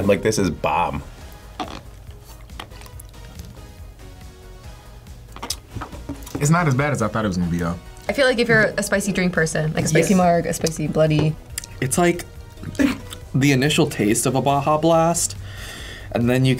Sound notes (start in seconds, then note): 1.3 straw squeaks; 5.2 kisses his teeth